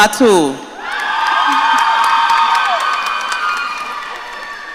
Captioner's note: audience cheering